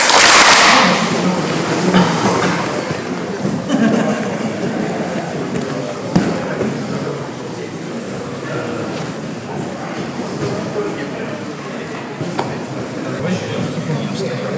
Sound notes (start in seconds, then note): 0.0 clap; 4.9 murmuring and breathing